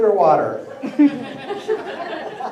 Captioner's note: laughter